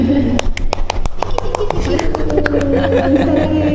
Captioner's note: applause and encouragement